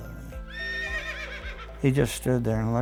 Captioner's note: horse whinny